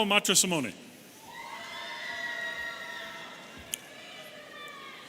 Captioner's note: audience cheering